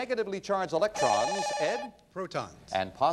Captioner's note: bell rings